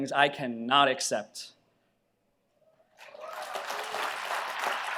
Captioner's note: audience applauds